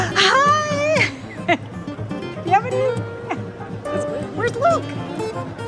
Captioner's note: laughs